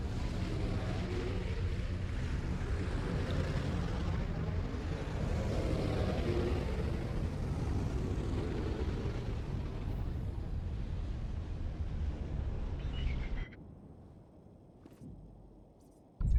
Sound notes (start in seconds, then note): 8.9 engine roaring